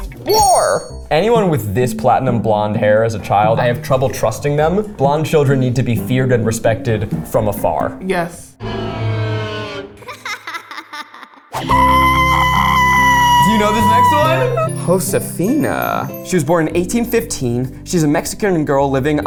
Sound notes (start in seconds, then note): 8.5 horror sting plays; 10.0 child giggles; 11.5 screams